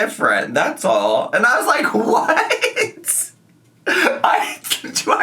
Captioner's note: laughs